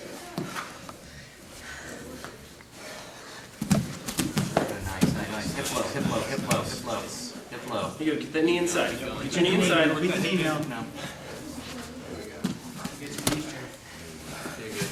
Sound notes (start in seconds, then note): 2.7 heavy breathing; 5.6 soft thudding